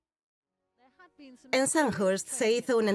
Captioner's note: voiceover